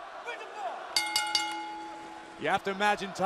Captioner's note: bell ringing